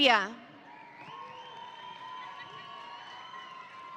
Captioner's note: audience cheering